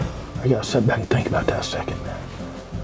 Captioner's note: whispering